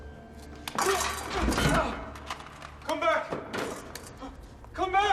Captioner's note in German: Grunzen